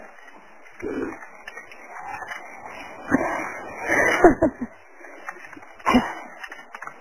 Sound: wheezing; whimpering

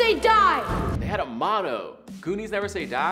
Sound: air whooshes

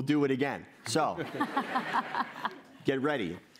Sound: laughter

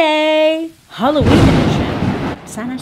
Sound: thunder crack and rainfall

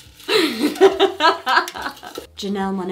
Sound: laughs

